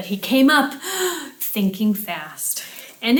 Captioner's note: breathing deeply